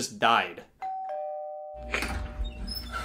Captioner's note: doorbell rings; door squeaks